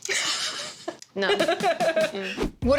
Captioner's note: laughing